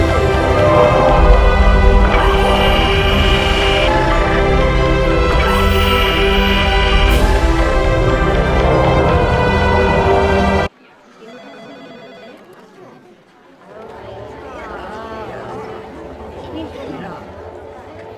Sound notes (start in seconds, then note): 10.7 various office chatter & phones ringing